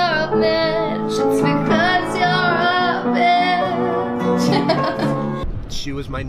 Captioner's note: laughs